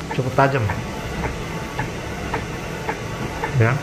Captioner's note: printer machine noise